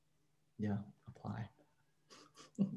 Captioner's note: chuckles